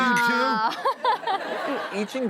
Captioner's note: audience laughing